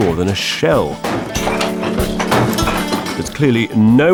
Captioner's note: stones clattering